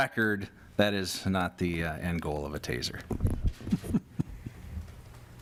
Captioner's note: laughter